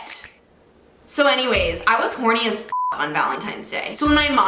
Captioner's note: beep